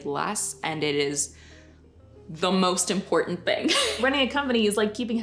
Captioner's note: laughs